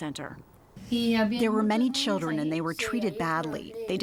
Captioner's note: through translator